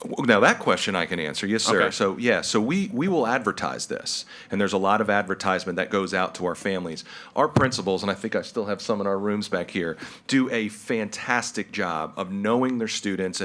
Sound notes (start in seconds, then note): none